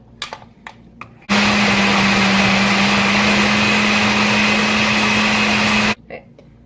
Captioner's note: blender noises